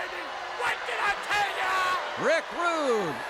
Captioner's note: crowd boos